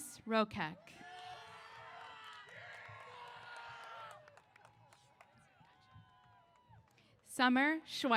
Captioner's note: applause & Cheers